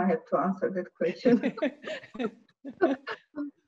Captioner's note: laughter